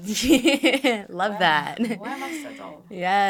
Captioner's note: laughs